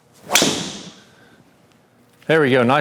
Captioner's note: golf ball clinks